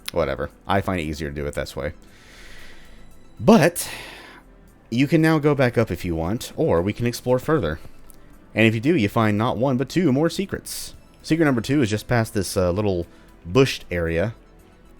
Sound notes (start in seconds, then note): none